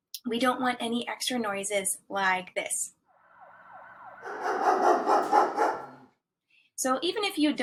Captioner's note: siren, dogs barking